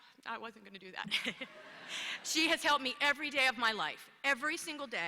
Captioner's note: laughter